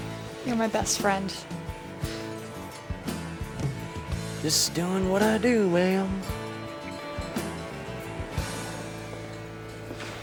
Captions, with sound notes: YOU‘RE MY BEST FRIEND. (In southern accent) JUST DOING WHAT I DO, MA‘AM.